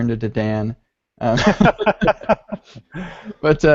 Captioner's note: laughs